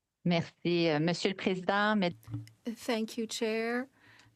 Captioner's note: speaking French